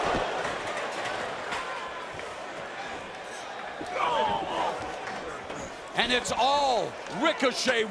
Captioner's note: crowd chatter